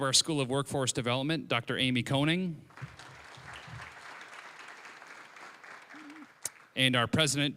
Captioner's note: applause